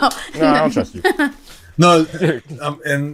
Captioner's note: chuckles